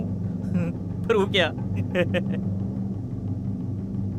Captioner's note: laughs